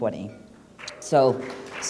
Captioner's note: applause